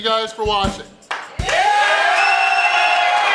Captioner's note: audience cheering